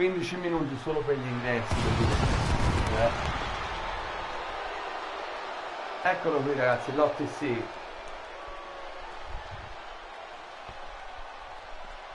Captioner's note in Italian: Applauso